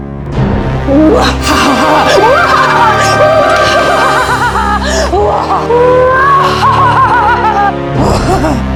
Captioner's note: evil laughter